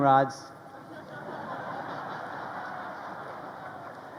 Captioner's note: crowd laughing